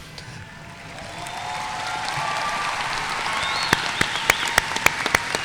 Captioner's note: audience cheering and applauding